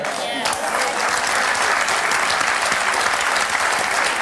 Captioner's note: applause